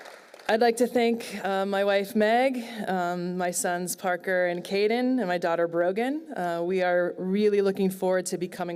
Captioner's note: applause